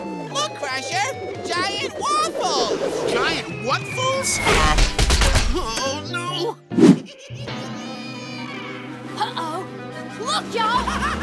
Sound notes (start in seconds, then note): 6.9 giggling